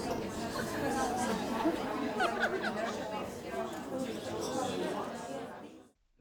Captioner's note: people chattering; both laugh